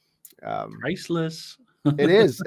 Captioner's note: chuckles